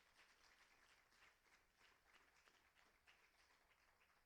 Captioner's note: applauding